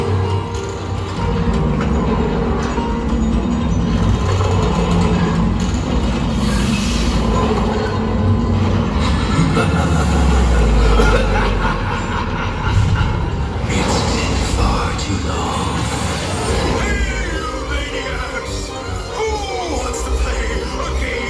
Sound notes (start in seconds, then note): 2.2 creaking sounds; 11.0 laughing